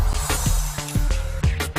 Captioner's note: transition whooshing